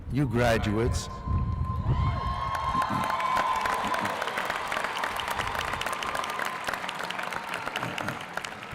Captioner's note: applause